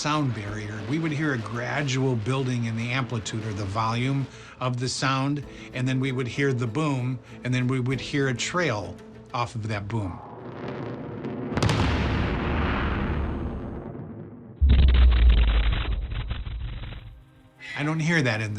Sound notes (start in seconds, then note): 10.2 loud explosion echoing; 14.0 loud explosion